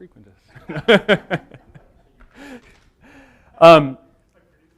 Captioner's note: laughter